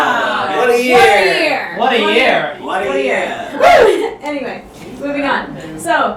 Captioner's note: audience "Wooow!"s